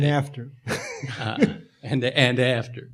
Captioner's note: laughing